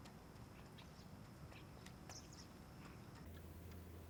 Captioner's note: birds chirping